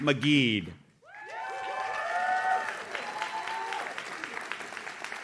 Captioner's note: audience cheers